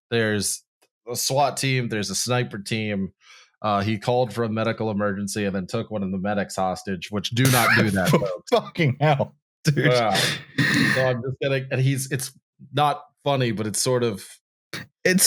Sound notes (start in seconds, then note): 7.4 sputters laughing